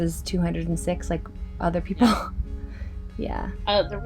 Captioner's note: laughing